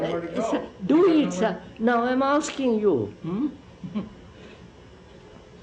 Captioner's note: laughs